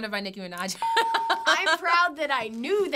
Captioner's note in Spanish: ding